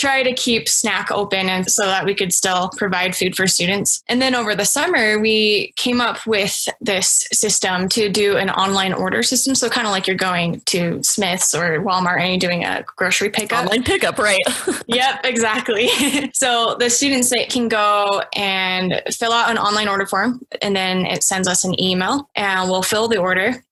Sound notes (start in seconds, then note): 13.5 laughs